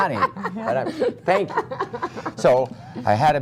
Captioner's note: laughter